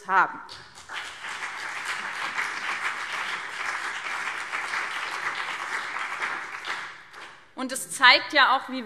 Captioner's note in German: Beifall BÜNDNIS 90/DIE GRÜNEN und CDU